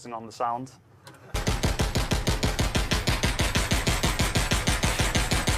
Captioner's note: gunshots